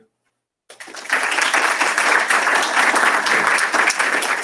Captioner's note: applause